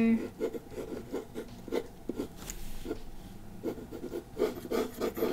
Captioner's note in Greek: Ήχος μολυβιού στο χαρτί